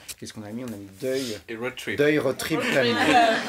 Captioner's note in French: avec un accent anglais